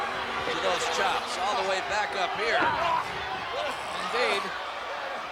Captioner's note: wrestlers grunting